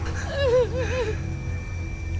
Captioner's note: wails; heavy music playing